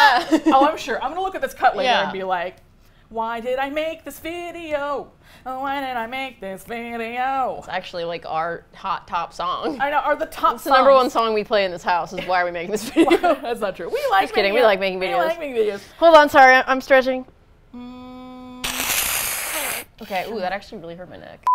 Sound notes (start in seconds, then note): 3.0 singsong; 12.7 laughs; 18.5 hiss